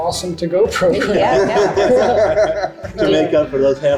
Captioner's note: group affirming